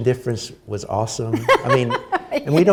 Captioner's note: laughter